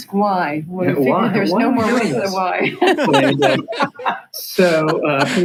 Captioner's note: laughs